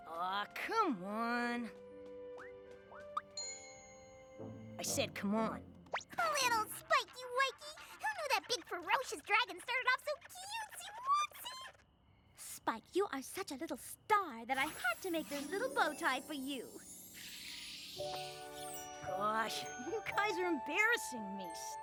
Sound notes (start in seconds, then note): 3.1 poink!